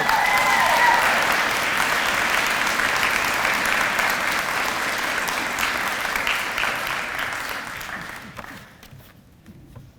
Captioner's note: audience applause